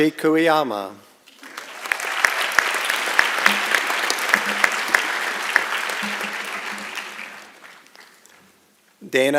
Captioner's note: applause and Cheering